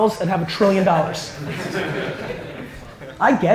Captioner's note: audience laughter